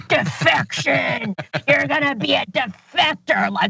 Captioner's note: laugh